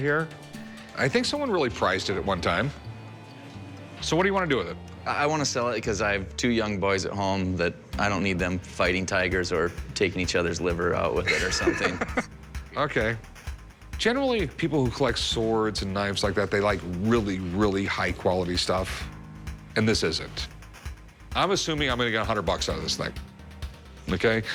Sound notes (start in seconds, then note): 11.2 laughs